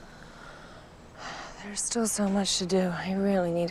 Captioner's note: sighs